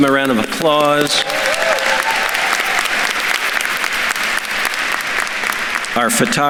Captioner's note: attendees cheering and applauding